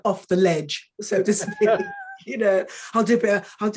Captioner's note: woman chuckling